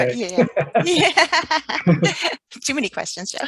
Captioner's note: laughs